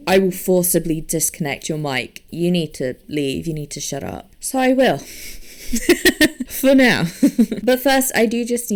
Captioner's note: laughs